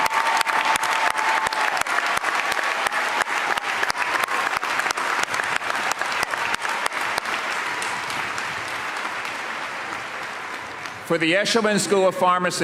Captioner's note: cheers and applause